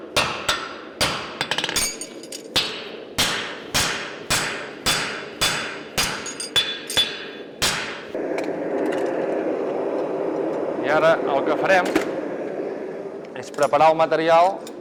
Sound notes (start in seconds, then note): 0.0 sharp metallic hammering; 8.1 blast from the furnace